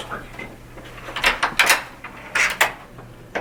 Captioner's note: door opening